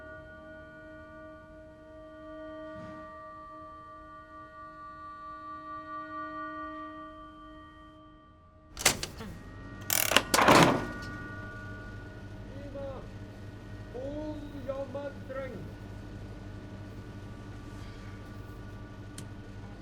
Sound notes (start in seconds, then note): 8.8 machine starts humming; 14.2 Mr Salber cries out in unknown foreign language